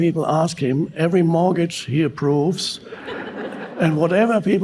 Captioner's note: audience laughing